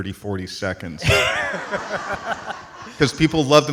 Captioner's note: audience laughs